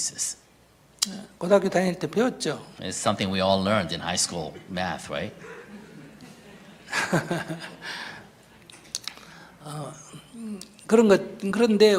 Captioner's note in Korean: 스님과 청중 웃음